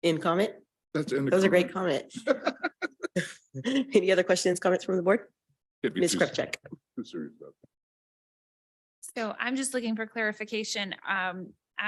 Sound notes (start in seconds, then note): 2.1 chuckles; 2.1 laughing